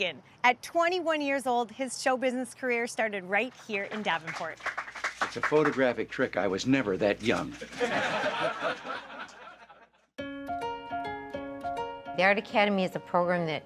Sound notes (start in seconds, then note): 3.8 audience applauding; 7.5 audience laughing; 10.2 bright string music